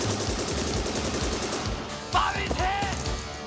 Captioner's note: guns firing